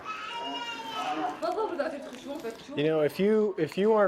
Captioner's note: woman speaks in Arabic